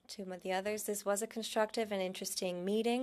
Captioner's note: speaking French